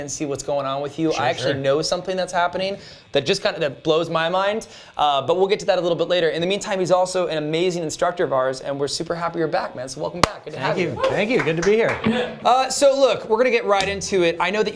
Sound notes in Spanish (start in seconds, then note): 11.0 aplausos